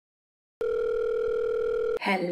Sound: phone ringing

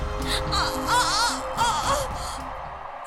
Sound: hissing and Biting Neck

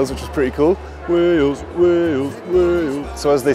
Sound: chanting

